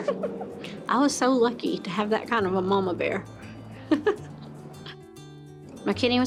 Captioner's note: laughs